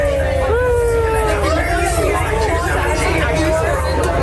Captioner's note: cheering